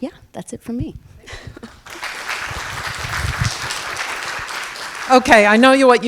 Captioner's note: audience clapping